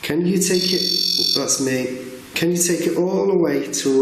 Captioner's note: REM-POD beeping